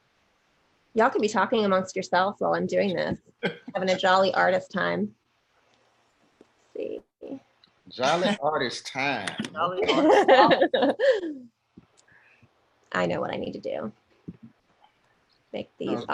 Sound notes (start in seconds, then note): 8.6 laughs